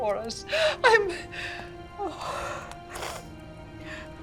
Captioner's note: crying; dramatic music